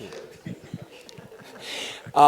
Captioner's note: laughter